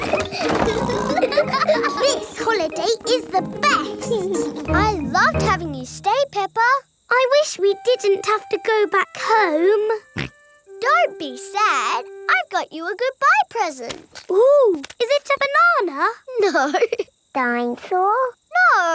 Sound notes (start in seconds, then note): 0.0 laughing and snorting; 9.9 snorts; 16.6 laughing